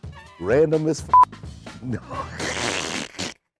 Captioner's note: snickering